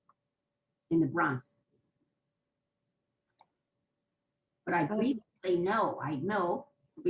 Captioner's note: pauses for 3 seconds